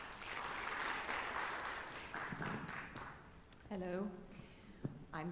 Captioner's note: applause